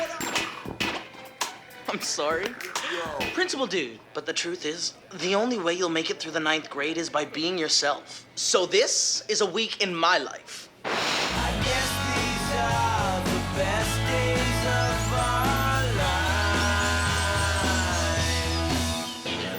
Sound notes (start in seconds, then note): 4.1 voiceover